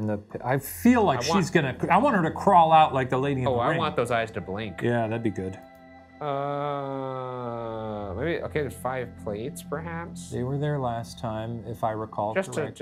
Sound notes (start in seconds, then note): none